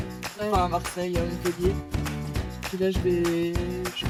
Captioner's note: speaking french